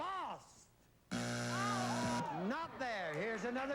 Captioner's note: buzzer